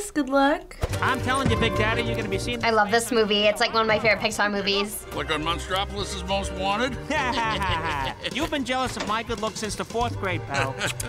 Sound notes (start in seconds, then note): 6.9 chuckles; 6.9 Mike laughs sarcastically